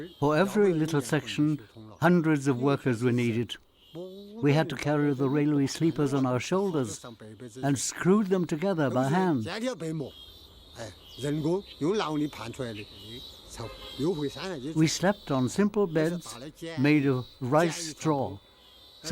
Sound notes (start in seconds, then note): 9.8 speaking in foreign language